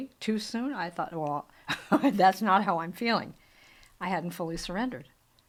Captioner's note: chuckles